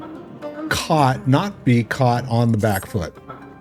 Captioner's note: laughing